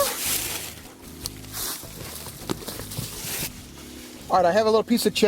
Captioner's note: leaves rustling